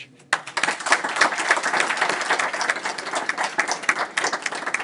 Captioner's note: applause